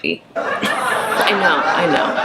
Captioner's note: audience laughing